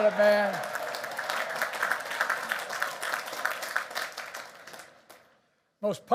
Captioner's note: applause